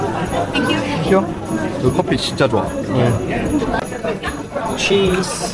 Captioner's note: in Korean